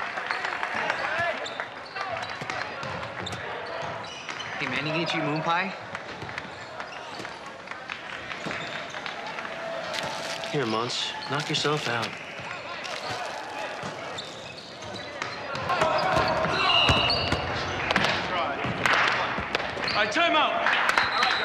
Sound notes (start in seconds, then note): 0.0 crowed continues cheering; 9.8 plastic crinkling; 13.6 sneakers squeaking; 15.8 ball thumping; 16.6 whistle sounding; 20.6 team clapping